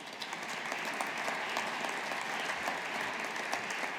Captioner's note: audience applauding